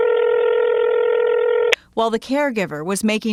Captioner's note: phone ringing